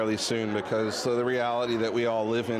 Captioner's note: none